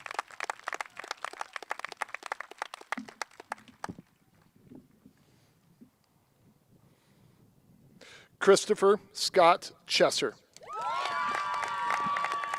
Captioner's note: cheers and applause